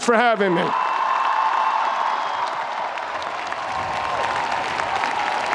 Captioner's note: audience cheers and applauds